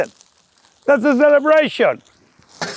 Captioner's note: vegetables sizzling